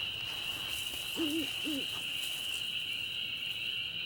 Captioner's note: owl hooting